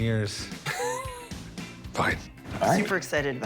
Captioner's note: laughs